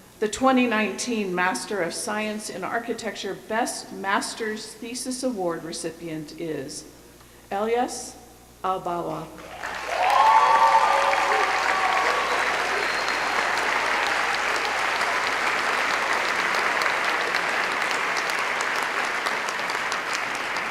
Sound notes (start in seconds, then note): 9.3 cheering